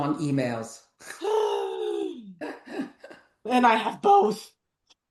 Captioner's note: laughs; gasps